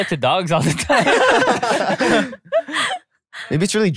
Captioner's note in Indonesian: tertawa